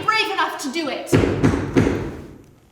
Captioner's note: more knocking